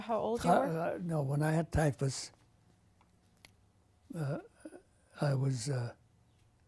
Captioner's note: pauses for 3 seconds